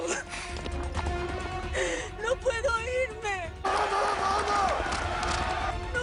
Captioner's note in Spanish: Llorando; Algarabía en el hipódromo